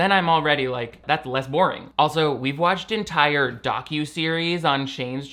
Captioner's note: none